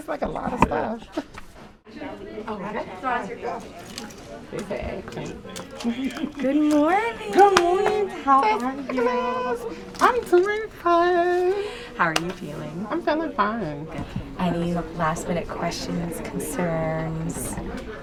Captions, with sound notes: It's like a lot of stuff. (hospital room chatter) - Good morning. - Good morning. Dr. Douglass. - How are you? - I'm doin' fine. - How are you feeling? - I'm feeling fine. - Good. Any last minute questions, concerns?